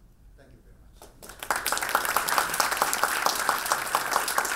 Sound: applause

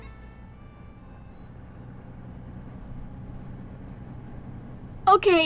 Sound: we return to kameron's bus. the engine whirrs

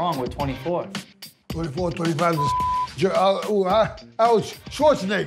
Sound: beep

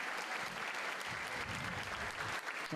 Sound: all cheer

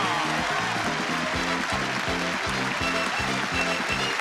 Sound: audience clapping

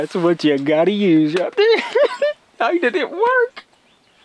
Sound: laughs

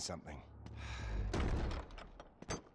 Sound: sigh

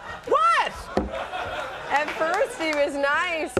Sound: audience laughs

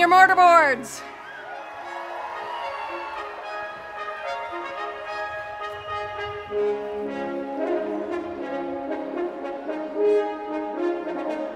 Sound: applause and cheers

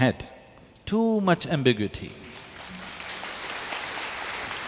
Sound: applause

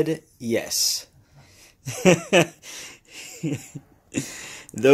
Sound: laughs

